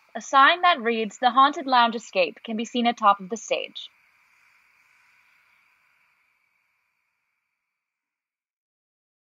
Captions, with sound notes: A sign that reads "The Haunted Lounge Escape" can be seen atop of the stage. [Ambient night noises fade out]